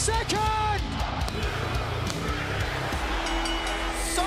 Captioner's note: crowd cheering; bell ringing